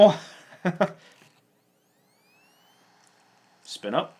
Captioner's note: laughs